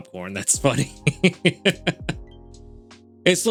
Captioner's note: laughs